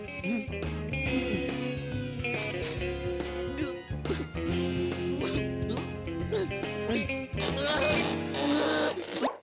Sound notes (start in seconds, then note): 0.1 guitar music; 3.3 whimpering